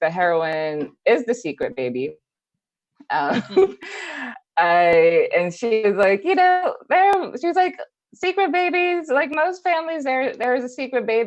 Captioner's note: laughs